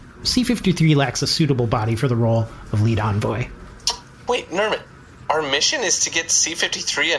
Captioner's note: excited